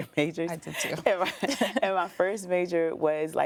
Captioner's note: laughs